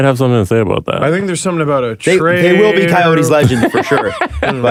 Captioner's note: laughs